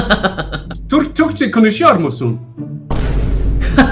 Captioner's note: Turkish